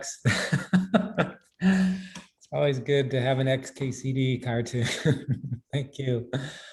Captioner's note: laughs